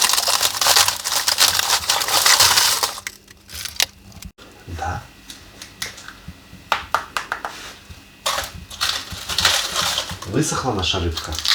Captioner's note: applause